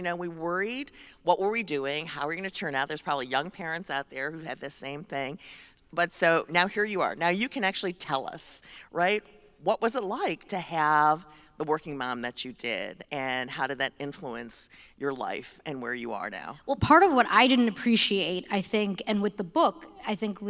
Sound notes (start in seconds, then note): none